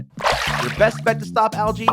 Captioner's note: water splashes